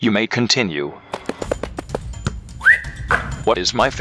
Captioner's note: running